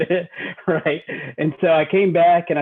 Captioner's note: chuckles